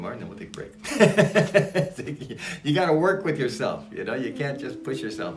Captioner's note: laughs